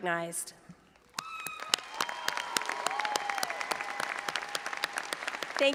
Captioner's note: audience applauding